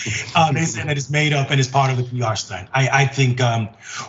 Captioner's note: laugh